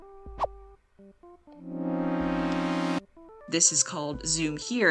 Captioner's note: higher pitched zoom noise